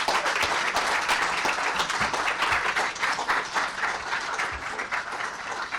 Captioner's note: audience applause